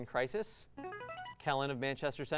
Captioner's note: buzzer